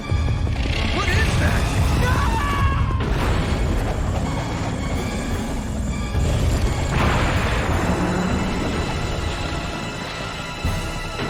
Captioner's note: sounds of the T Rex assisting the helicopter onto the landing pad